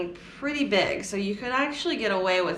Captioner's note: none